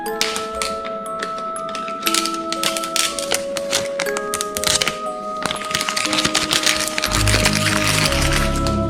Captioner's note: plastic wrap opening